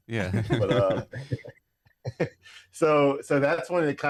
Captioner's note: laughing